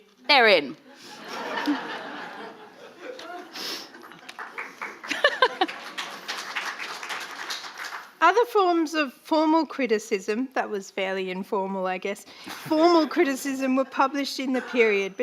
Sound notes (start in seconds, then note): 0.9 audience laughing; 3.0 audience clapping; 5.0 laughs; 6.6 audience applauding